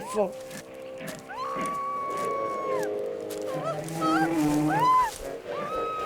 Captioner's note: gorilla grunts; young woman screams